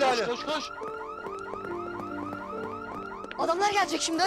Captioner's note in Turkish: Alarm Çalıyor